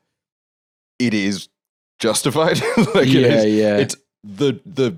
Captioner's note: laughs